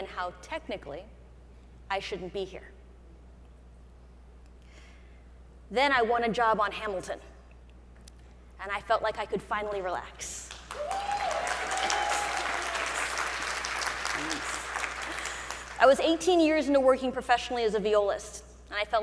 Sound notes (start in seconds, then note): 10.7 audience cheering